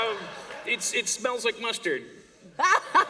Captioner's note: laughter